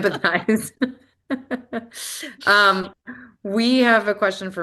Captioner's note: laughter